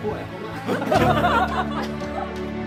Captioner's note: laughs